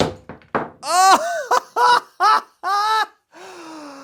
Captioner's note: man laughs